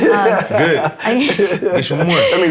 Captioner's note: laughter